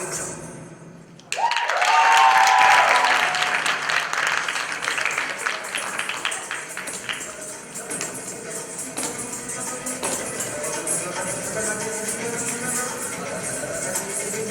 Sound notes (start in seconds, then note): 1.3 applause; 5.3 coins jingling